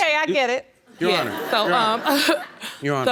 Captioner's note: audience laughing